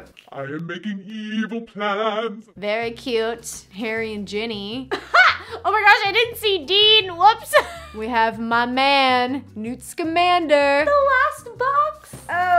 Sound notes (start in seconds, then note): 4.9 laughs